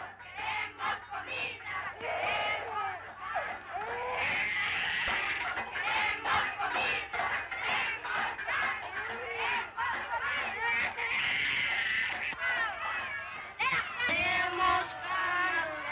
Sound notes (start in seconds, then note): 2.0 baby crying; 4.0 chanting; 11.0 baby crying; 14.1 chanting